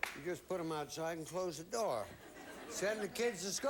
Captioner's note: audience laughing